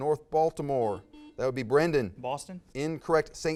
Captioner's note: buzz